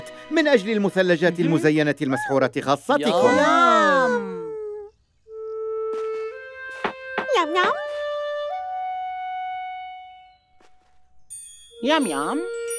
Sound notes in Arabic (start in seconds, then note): 3.0 صوت مرح; 5.2 موسيقى هادئة